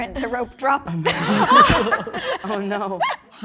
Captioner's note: group laughing